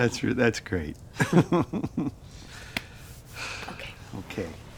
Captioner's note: chuckling